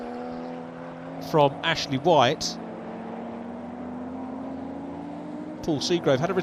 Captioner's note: car engines revving